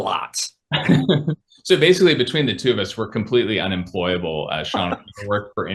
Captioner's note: laughs